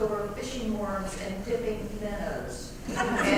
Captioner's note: laugh